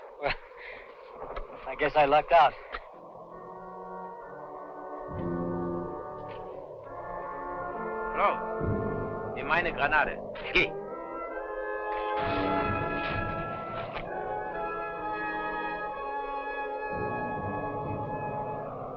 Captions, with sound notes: - Well I guess I lucked out. (speaking in a foreign language) (suspenseful instrumental music)